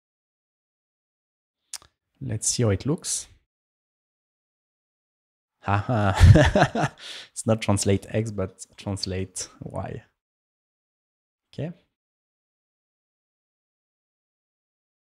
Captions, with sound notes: Let's see how it looks. [LAUGHING] It's not translate x, but translate y. OK.